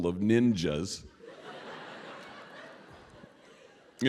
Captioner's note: laughter